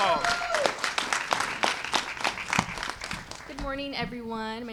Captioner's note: applause